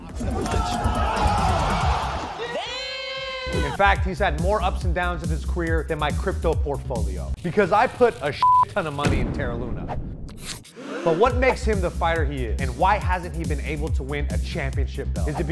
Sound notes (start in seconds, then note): 8.4 beep; 10.7 crowd gasps